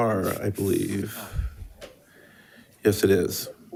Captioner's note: member speaking faintly